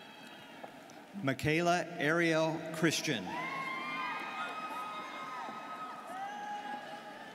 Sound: students cheering

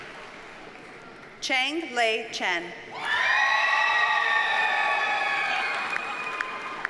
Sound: audience cheers and applauds

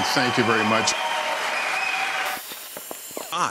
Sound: loud audience applause

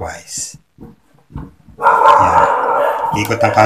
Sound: dog barking at the mice

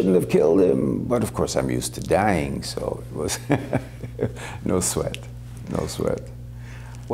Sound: laughter

